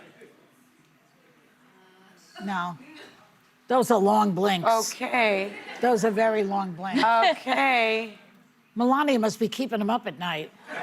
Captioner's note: laughter